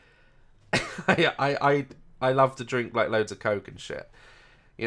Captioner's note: laugh